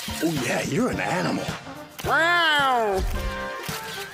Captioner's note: meows